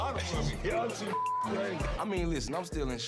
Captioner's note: beep